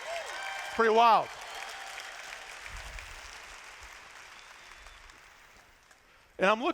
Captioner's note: applause